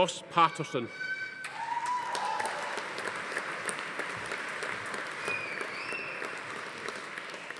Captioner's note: attendees cheering; audience applauding